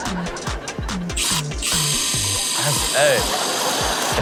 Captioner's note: drill buzzes